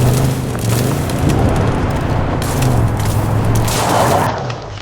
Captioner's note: gun firing